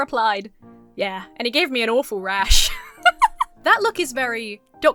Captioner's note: giggles